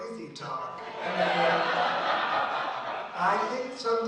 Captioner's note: audience laughs